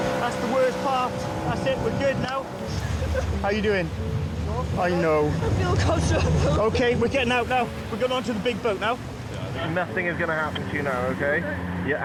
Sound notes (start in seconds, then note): 5.4 sobs